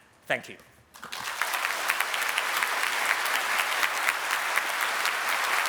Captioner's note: applause